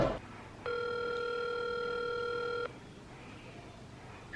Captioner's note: phone ringing